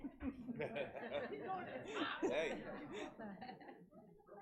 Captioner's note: audience laughing